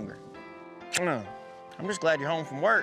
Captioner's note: smooch